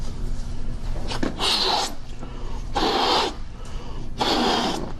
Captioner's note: blows up a balloon